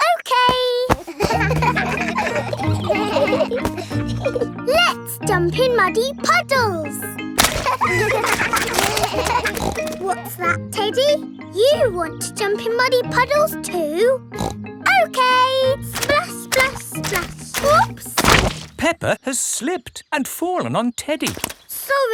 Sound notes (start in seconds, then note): 0.7 kids laughing; 7.4 snorts; 7.4 kids laughing; 14.3 snorts